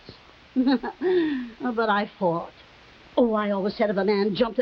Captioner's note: Veta laughing